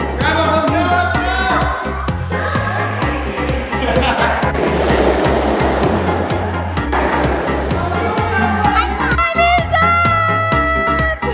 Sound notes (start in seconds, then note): 3.1 laughs; 4.4 wheels rattling